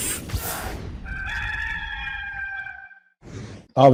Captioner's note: cock crows